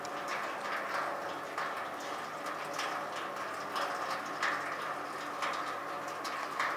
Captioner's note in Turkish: Tankere dökülen su sesi